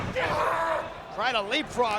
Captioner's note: wrestlers grunting